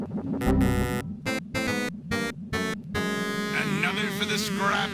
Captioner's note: error noises